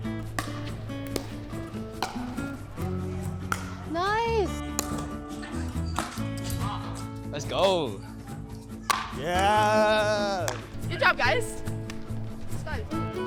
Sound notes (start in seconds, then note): 0.0 pickleball sounds